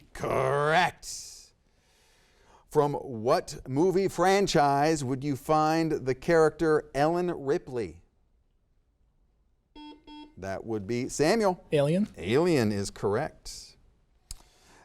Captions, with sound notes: - Correct. From what movie franchise would you find the character Ellen Ripley? (buzzer beeps) That would be Samuel. - "Alien". - "Alien" is correct.